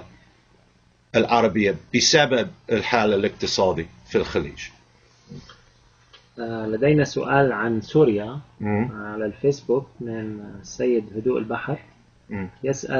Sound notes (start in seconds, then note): 7.0 speaking Arabic